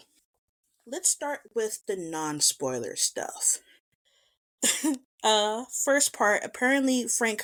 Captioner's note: laughs